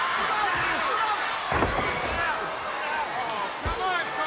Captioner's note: body thudding